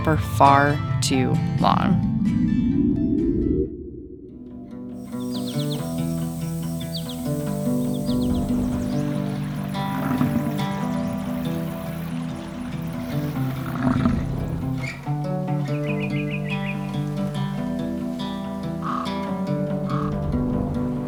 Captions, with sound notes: for far too long. (music intensifying) (light music) (water rippling) (light music) (nature animals calling)